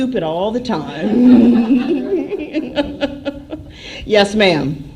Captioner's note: laughter